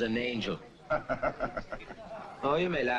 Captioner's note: Parker laughs